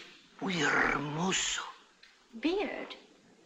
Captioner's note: in spanish